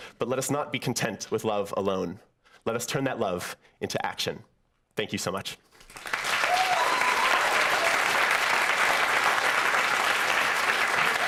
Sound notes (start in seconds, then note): 5.8 applause